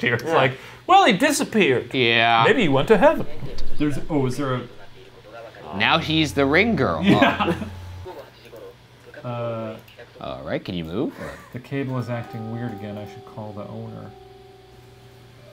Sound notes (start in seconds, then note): 7.0 laughs; 8.6 TV playing; 15.2 gentle creepy music